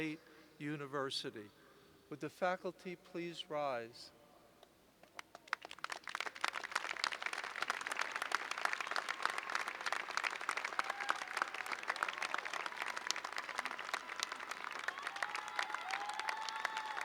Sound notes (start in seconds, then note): 5.1 applause